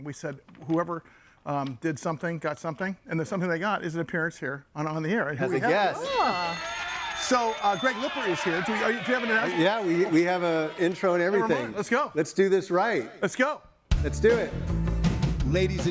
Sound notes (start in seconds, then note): 6.0 audience applauding; 13.9 upbeat music